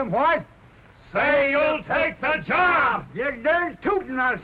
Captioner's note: yelling at once